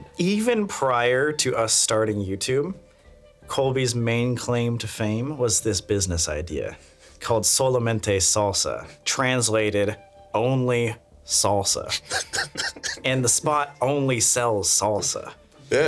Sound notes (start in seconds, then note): 11.9 laughing